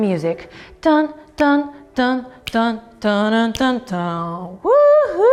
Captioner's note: humming